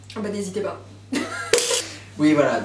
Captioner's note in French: Rires